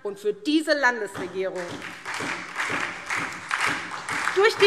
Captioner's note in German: Beifall SPD und DIE LINKE